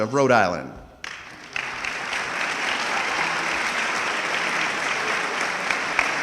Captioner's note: audience clapping